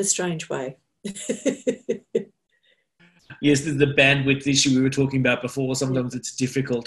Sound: laughter

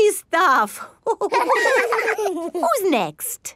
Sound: all laughing

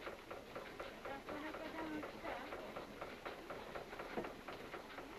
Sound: street noise

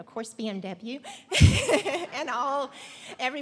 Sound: laughter

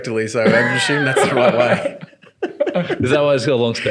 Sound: laughing

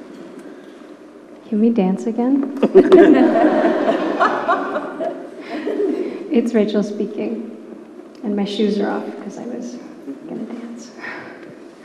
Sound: laughter

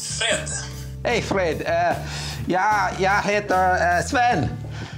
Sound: speaking Swedish

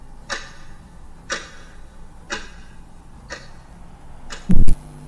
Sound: clock ticking

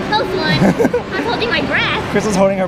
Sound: laughs

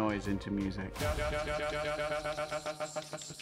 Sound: stutter effect

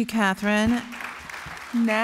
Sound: applause

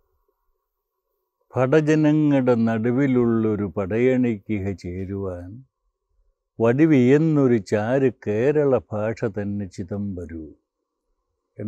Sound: recites verses from a poetic composition

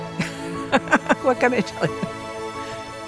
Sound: laughs

